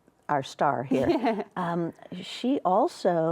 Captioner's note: chuckles